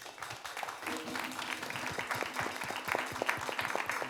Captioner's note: audience claps